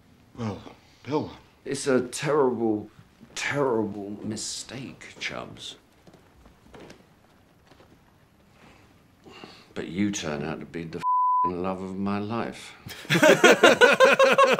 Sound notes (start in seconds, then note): 11.0 beeping